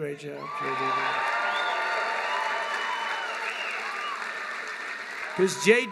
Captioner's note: applause